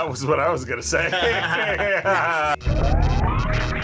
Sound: both laugh; electricity crackles

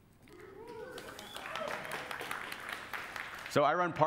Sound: applause

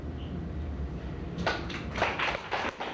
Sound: applause

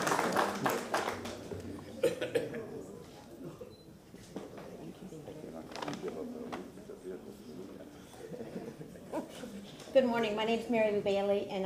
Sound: applause

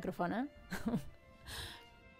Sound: giggle

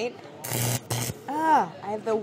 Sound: zapping

